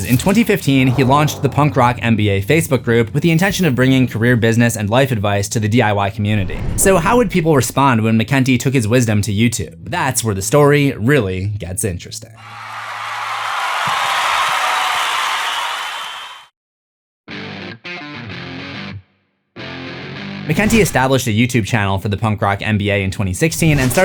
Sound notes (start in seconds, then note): 12.4 crowd Cheering; 17.3 guitar Riff